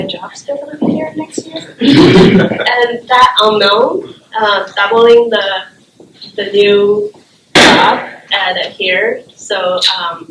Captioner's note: laughter